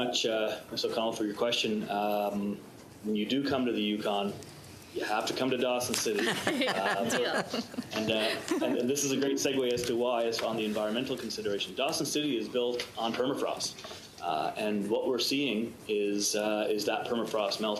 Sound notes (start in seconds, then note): 9.6 laughter